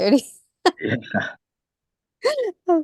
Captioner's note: laughter